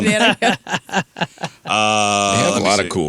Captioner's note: laughter